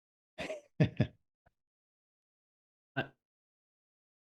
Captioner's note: laughs